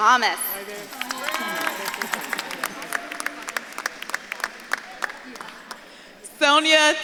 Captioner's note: audience claps and cheers